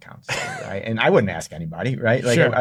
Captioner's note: laughs